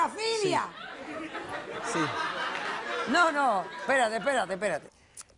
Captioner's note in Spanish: Risas